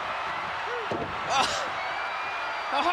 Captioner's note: laughs